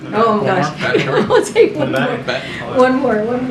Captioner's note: laughs